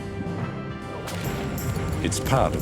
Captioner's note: whip cracks